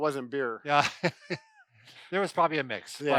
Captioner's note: laughing